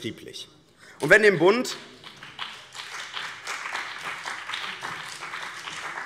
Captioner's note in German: Beifall BÜNDNIS 90/DIE GRÜNEN und vereinzelt CDU